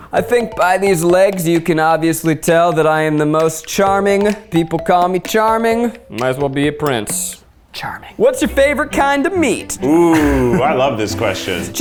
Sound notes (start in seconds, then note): 9.8 chuckles